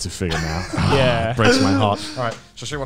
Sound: groans

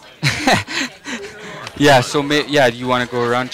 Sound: laughing

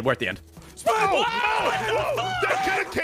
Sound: screaming

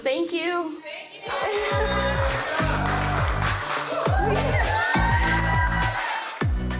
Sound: crowd cheering

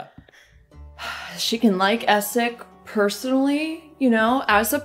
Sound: sigh

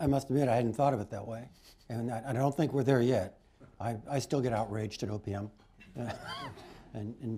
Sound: laughter

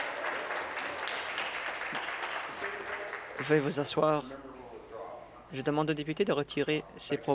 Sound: applause

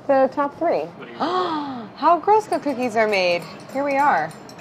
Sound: gasping

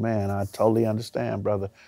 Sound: none

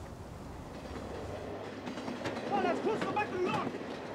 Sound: train pummeling

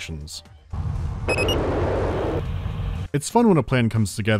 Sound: sounds of warm welcome

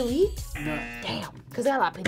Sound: buzzer rings; buzzer

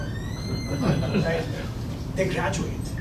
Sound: laughing

